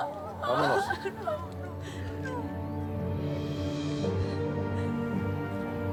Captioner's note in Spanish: Sollozos